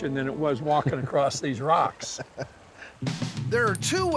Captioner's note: laughing